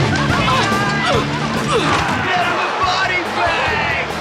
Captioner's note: groaning